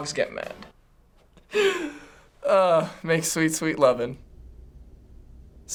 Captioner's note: laughing